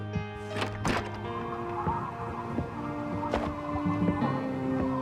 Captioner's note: wind blowing